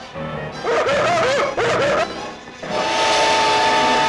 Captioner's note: yelling; dramatic music